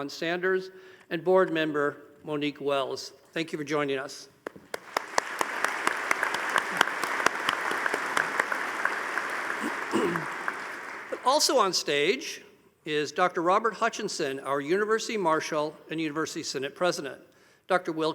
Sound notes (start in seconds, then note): 4.5 audience applauding